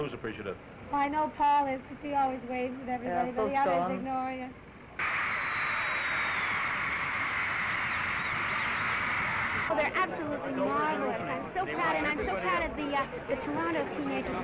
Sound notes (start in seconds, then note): 8.8 cheering